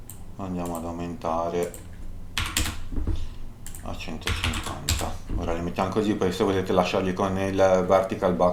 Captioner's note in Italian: sbuffare